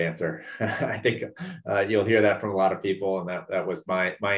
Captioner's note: laugh